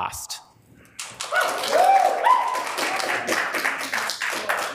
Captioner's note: audience claps